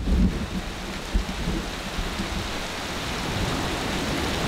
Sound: rain falling

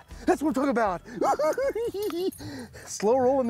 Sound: giggling

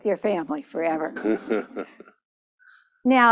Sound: laughter

